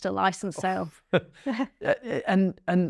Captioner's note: laugh